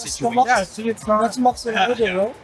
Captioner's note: speaking French